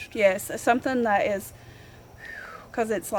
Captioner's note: phews